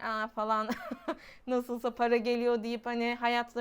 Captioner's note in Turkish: kahkaha